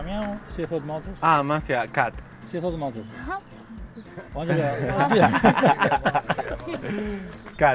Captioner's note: laughs